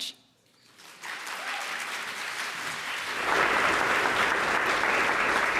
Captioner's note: applause